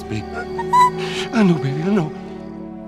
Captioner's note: crying